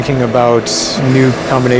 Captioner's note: air blowing